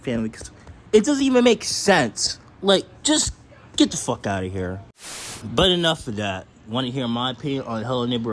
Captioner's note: another static cut